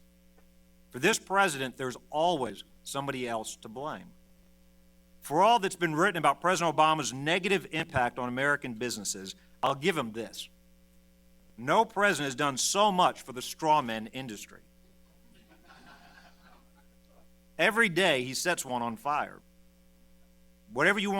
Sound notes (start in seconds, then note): 15.3 laughter